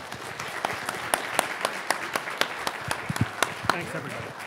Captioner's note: audience applauding